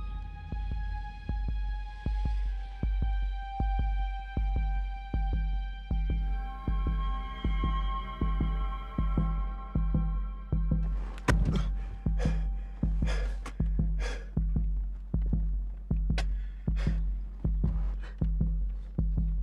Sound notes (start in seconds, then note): 14.2 crying